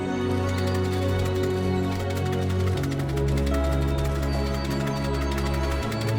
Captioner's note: hopeful music; rattle shaking